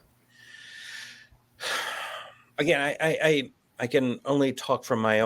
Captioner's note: sighs